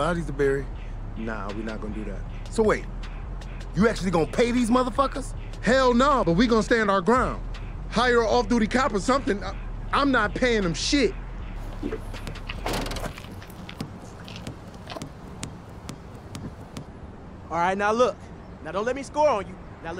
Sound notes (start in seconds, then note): 11.6 trunk thuds; 14.6 ball smacks